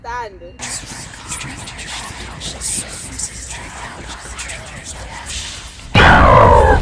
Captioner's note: voices chanting